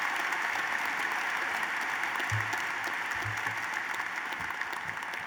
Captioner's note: applause